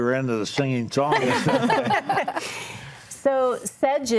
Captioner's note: group laughs